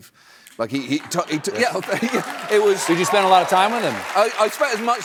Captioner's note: cheering